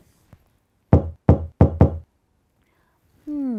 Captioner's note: knocking